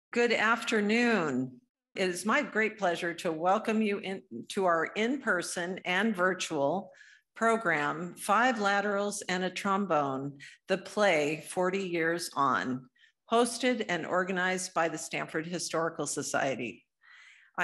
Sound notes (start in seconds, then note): none